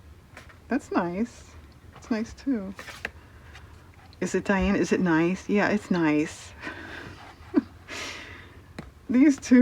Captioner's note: laughs